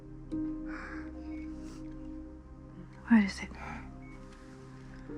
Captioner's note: sniffles